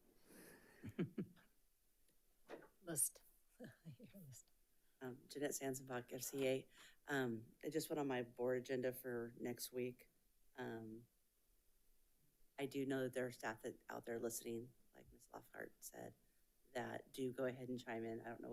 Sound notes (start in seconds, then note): 0.8 chuckles